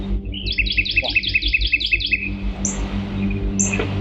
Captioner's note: birds singing